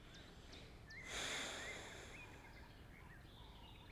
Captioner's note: Robyn inhales deeply